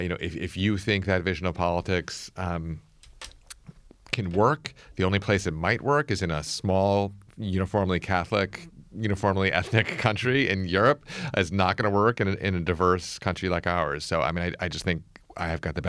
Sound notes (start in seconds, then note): 9.6 laughs